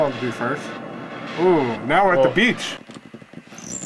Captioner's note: digital ocean wave sounds